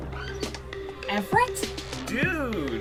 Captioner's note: door creaks